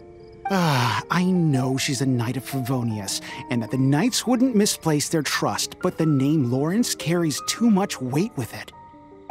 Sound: sigh

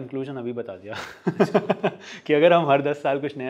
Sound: laughs

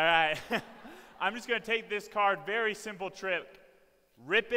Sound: laughs

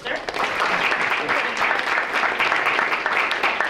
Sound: audience clapping

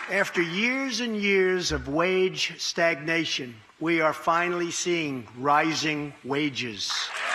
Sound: applause

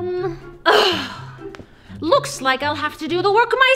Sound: Queen scoffs exasperatedly

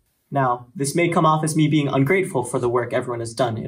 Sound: none

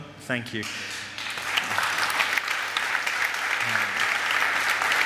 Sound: audience applaud

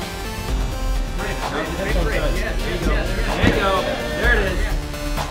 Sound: chattering

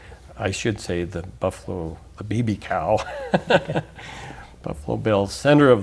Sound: laughs

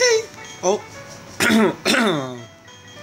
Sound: ahem

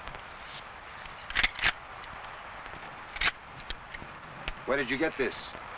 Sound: rifle cocking

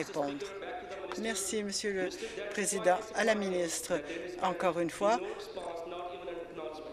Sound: applause

